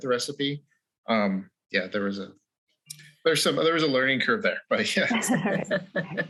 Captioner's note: laughs